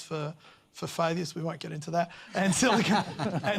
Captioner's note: laughter